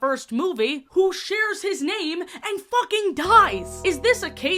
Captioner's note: bell bong sfx